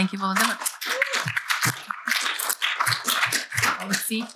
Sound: applause

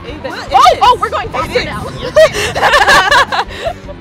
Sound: nervous laughter

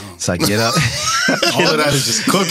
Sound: laughing

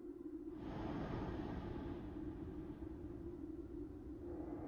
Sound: deep breathing

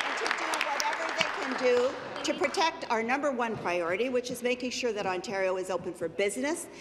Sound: applause

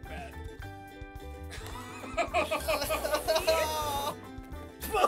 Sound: spluttering; laughing

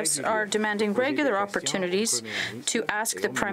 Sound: speaking french

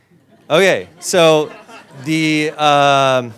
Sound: audience laughs

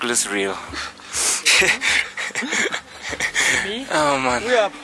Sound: laughs

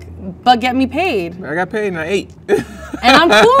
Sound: laughs

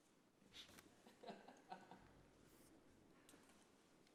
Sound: laughter

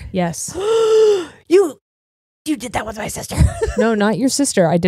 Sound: gasps

